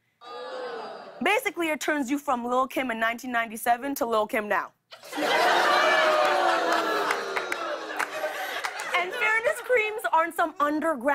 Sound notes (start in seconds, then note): 5.0 audience ohhs